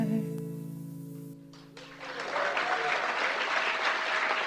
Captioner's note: applause